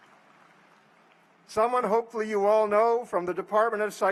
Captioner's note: applause